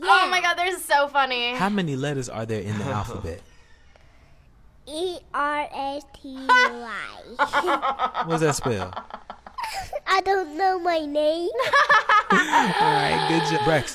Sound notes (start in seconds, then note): 3.4 chuckles; 7.3 laughs; 11.6 laughs